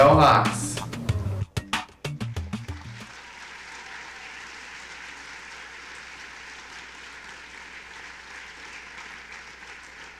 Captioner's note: applause